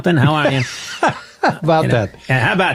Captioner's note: laughing